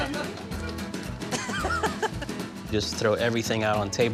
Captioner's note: laughing